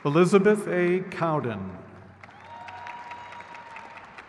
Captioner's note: crowd claps